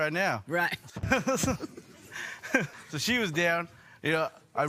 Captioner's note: laughter